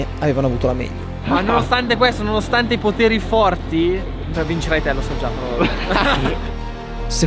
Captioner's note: laughs